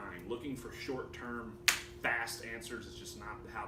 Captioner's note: finger snapping